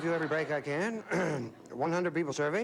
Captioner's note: clears throat